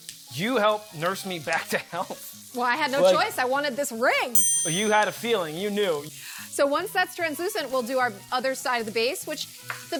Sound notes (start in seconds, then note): 4.3 ding